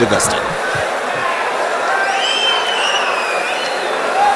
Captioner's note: wild applause and cheering for 22 seconds